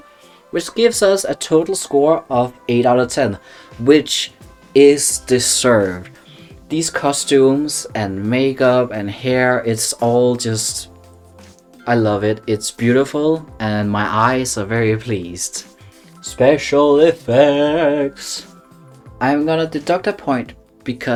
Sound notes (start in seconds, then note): 11.4 chef’s kiss